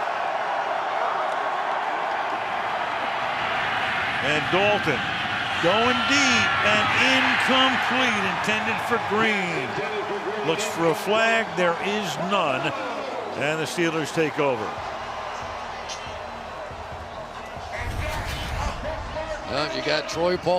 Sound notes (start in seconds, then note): 10.1 pa announcement; 19.0 pa announcement